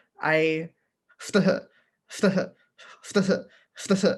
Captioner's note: stutters